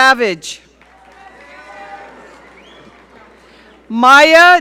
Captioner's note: audience cheering